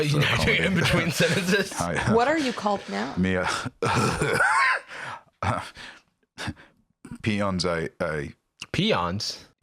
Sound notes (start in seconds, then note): 3.4 chuckles, coughs